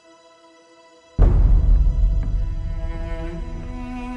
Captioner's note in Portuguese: impacto